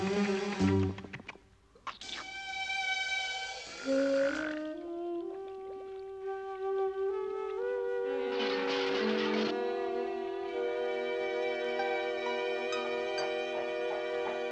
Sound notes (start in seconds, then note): none